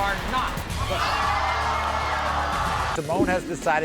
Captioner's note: screaming